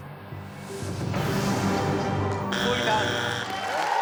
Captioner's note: suspenseful music; machine beeping; audience applauding